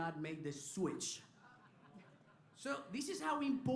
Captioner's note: laughter